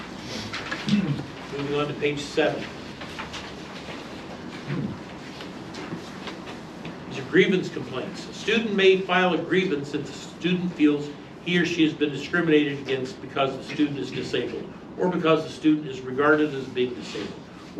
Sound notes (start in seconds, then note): 3.5 papers flipping; 8.4 reading from paper